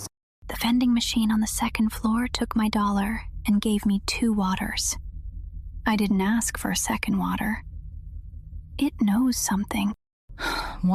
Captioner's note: whispers; sighs